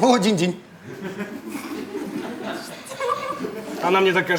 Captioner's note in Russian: Смех